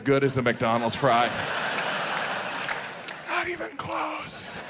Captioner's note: audience laughing